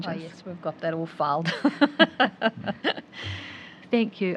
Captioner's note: laughs